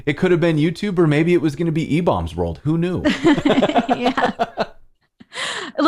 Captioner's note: laughter